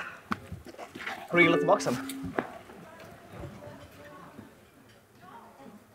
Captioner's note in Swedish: Sams telefon får en notis